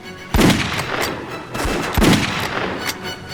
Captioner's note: gun fires